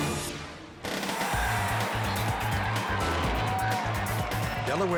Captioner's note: crowd screaming